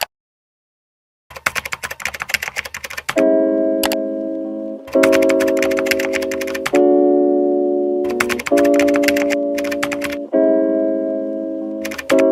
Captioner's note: mouse Click; keyboard Typing & Clicking